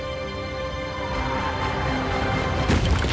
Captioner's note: whooshing